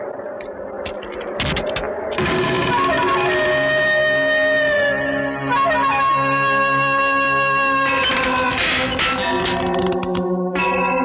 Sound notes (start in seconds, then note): 1.3 car Door Opens; 7.9 wood Door Opens & Gride